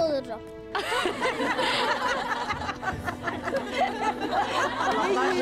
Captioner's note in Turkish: Gülme sesleri